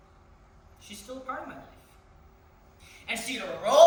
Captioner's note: passionately, combattively